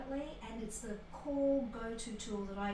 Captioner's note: none